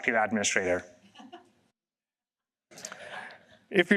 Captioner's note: laughter